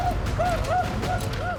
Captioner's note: whooping